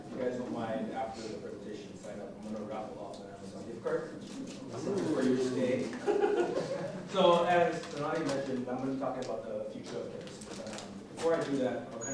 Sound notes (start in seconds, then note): 6.0 laughing